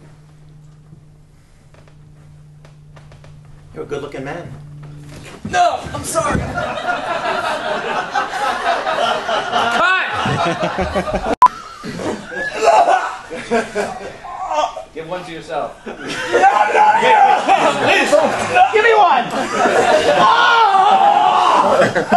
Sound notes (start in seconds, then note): 6.4 laughter; 14.2 technician GROANS